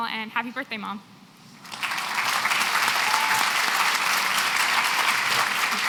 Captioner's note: applause